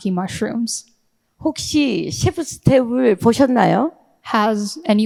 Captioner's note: speaking in foreign language